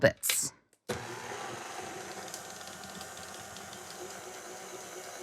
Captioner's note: quiet whirring